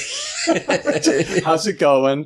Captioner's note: laughter